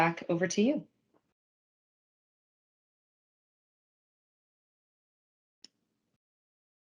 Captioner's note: silence